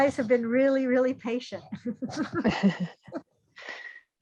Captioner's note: laughs